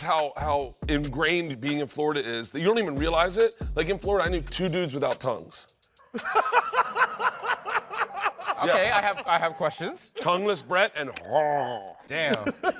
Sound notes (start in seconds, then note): 6.1 laughs; 11.2 moans